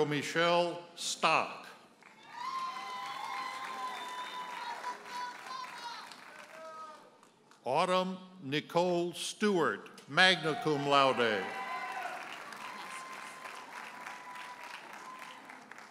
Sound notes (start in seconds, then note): 2.0 audience cheers and applauds; 6.1 audience member hollers; 11.9 audience cheers and applauds